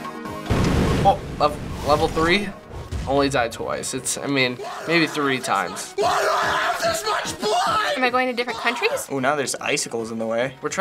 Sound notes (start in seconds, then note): 1.0 hesitates